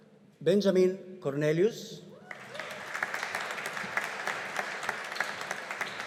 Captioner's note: audience applauding